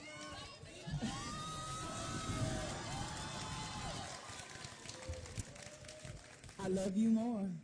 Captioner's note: applause and Cheering